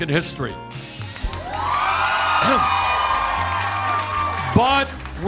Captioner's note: cheers and applause